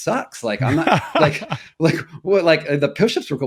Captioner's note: laughing